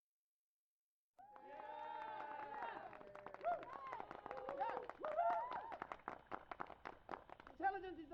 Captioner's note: crowd cheering and applauding